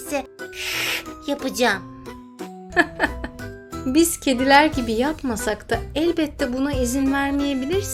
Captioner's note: laughs